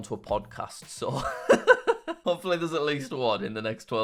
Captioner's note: laughs